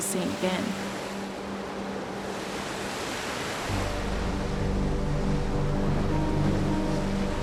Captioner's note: suspenseful music; waves whooshing